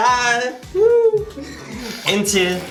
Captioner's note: sighs